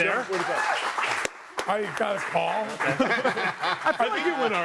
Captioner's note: audience claps